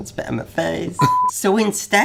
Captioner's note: beeps